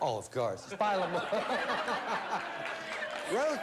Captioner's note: laughs